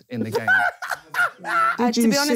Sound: laughing

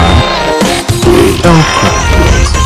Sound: Sound of Loz crying

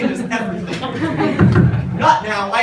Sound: knock knock

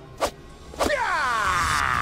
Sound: ninja sounds

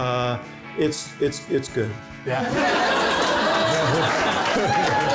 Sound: laughter

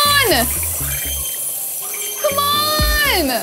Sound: bright chiming

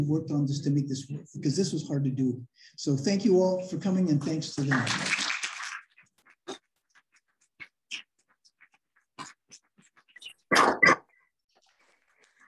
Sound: applause

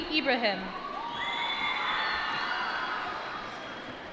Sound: applause

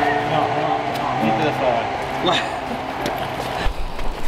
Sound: laughter

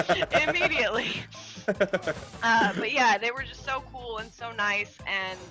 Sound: laugh

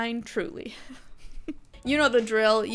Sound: light laughter

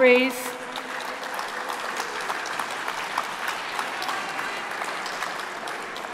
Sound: applause

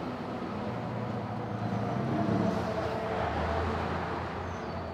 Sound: street sounds

